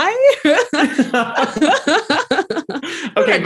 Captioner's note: laughing